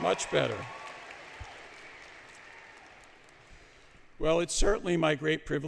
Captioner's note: applause